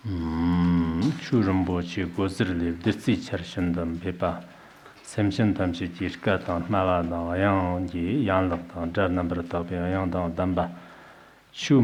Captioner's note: giving oral transmission in Tibetan